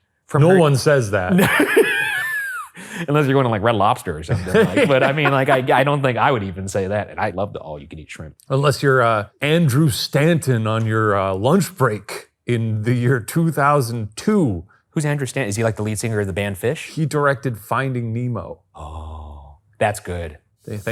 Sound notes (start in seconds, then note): 1.2 laughing; 4.3 laughing